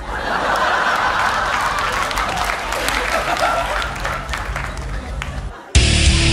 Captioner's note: laughter